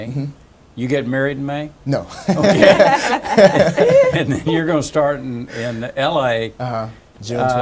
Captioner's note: laughs